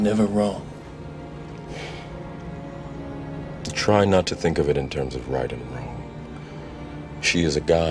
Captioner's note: sighing